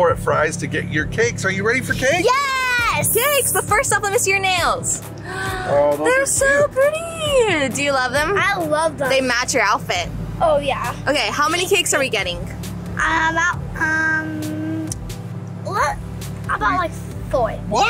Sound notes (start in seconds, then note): 5.2 gasp